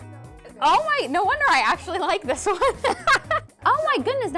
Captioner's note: laughing